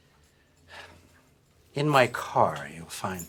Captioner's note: sighs